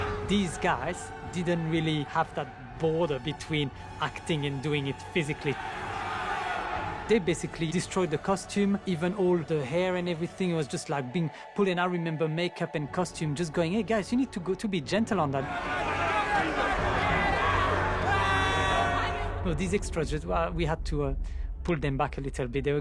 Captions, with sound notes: These guys didn't really have that border between acting and doing it physically. They basically destroyed the costume... ...even all the hair and everything... ...was just like being pulled. And I remember Makeup and Costume going: "Hey, guys. You've need to go to be gentle on that." [SCREAMING] These extras, we had to pull them back a little bit.